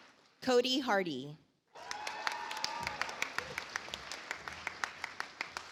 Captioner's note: audience applauds